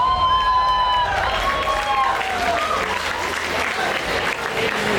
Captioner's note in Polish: aplauz